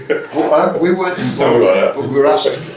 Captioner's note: laugh